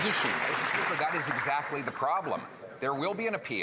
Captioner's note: some Applause